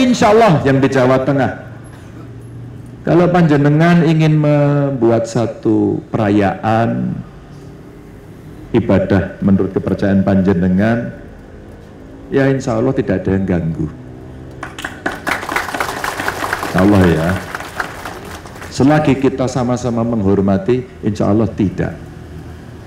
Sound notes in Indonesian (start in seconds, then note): 14.6 tepuk tangan